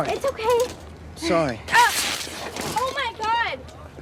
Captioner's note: Kate grunts